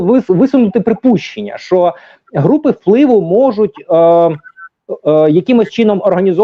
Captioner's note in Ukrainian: сміх